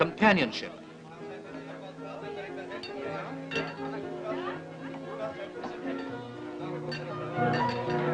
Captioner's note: chatter